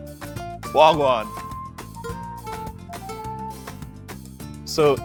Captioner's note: in foreign language